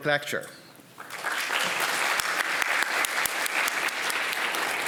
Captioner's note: audience clapping